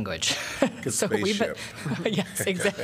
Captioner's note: laughter